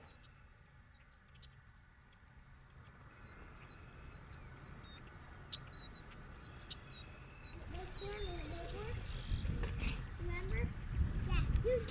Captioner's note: birds chirping; children chattering